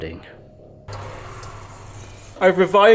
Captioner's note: potatoes sizzling